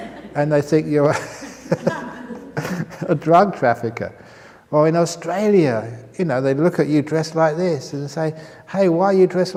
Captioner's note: chuckles